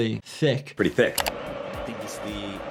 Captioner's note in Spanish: clics del ratón